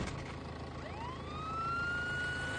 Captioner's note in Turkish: polis siren sesi